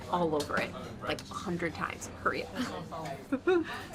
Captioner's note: laughs